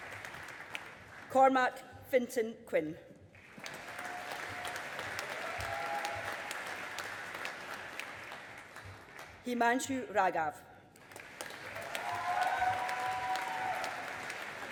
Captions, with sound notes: Cormac Finton Quinn. (AUDIENCE APPLAUDING) Himanshu Raghav. (AUDIENCE APPLAUDING)